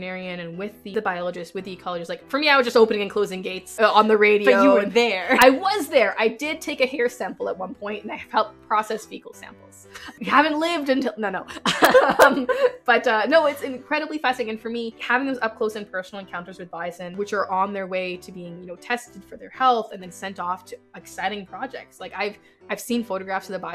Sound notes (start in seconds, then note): 11.6 laughs